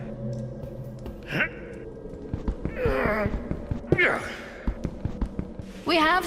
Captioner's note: grunt